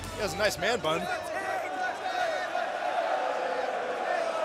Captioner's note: crowd cheering